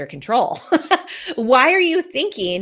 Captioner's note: laughs